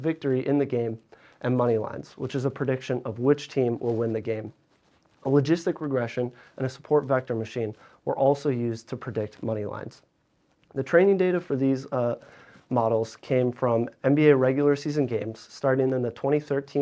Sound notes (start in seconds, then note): none